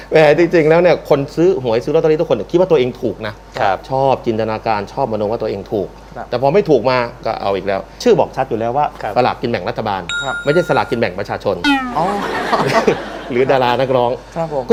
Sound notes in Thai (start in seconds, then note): 12.0 เสียงหัวเราะ